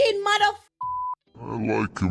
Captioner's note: beep